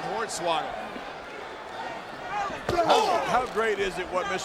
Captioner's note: crowd shout